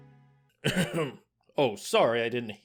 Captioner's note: clears his throat